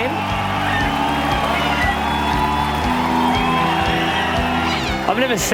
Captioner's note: audience cheers and applauds